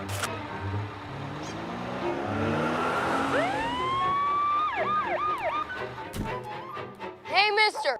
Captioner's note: sirens blaring